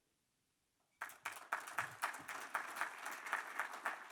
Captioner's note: applause